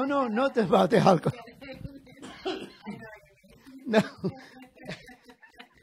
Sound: laughing

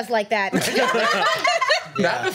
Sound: laughs

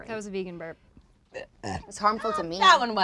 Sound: burps

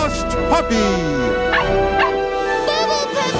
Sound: barking

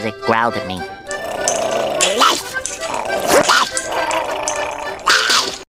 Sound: growls

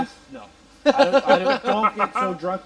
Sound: laughter

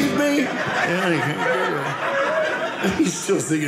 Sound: audience laughing

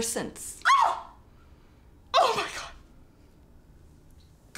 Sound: screams

